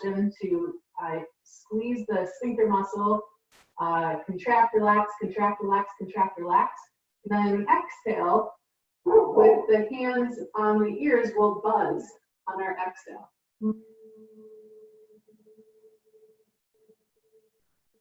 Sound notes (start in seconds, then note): 13.6 humming